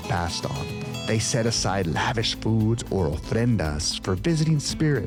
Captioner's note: speaking Spanish